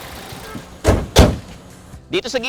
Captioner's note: hoods thud